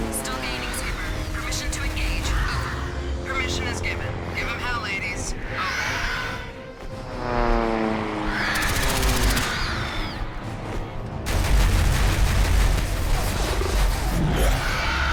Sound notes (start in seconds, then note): 8.3 creatures screeching; 8.6 turrets firing